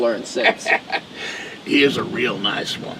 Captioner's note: Jake laughing